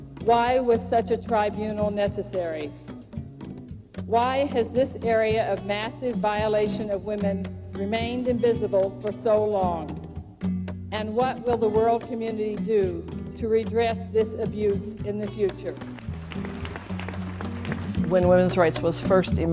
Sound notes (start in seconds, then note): 15.7 applause